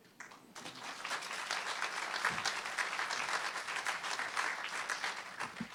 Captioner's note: audience clapping